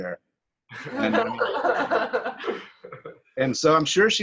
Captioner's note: laughter